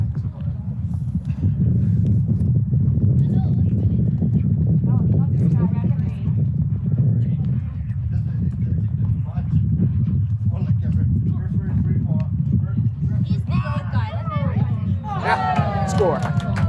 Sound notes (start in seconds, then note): 3.0 chatter; 15.1 crowd cheering